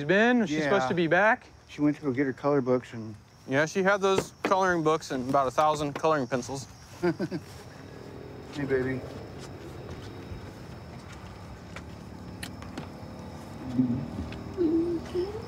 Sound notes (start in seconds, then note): 6.9 laughter